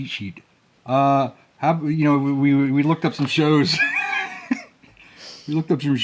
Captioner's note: laughing